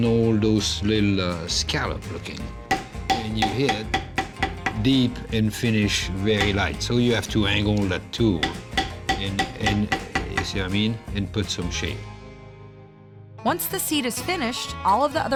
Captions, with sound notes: ALL THOSE LITTLE SCALLOPS... [BANGING] WHEN YOU HIT DEEP AND FINISH VERY LIGHT SO YOU HAVE TO ANGLE THE TOOL. [BANGING] AND... SEE WHAT I MEAN? IT PUT SOME SHADE. ONCE THE SEAT IS FINISHED, ALL OF THE OTHER